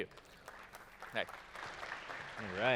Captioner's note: applause